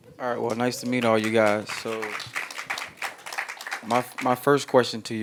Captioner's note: applauding